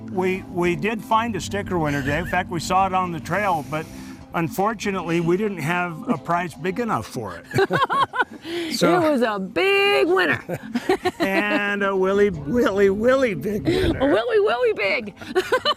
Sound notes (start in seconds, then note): 10.2 laughter